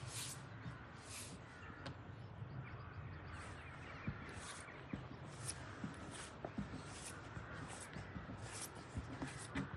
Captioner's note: sound of nature